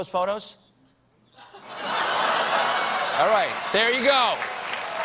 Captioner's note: laughter; applause